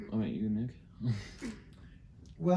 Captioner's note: laughs